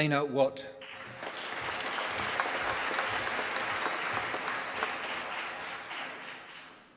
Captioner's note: applause